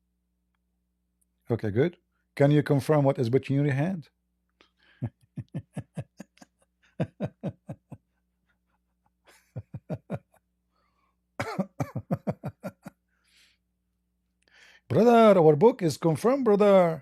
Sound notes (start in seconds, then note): 4.9 Ketawa